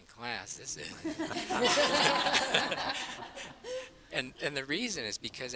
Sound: laughter

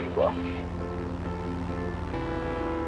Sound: airplane hums

